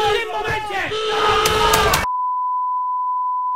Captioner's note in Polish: wystrzały